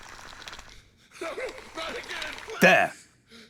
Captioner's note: ghostly voices